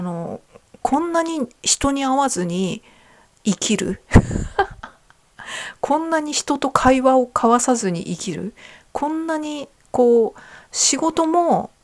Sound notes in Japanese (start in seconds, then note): 4.1 笑い